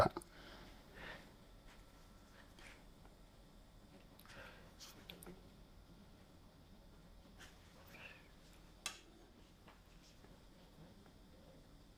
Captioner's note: silence